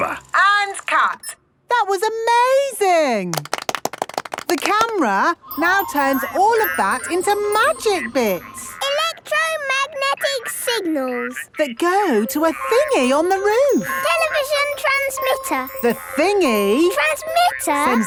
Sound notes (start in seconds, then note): 3.3 applause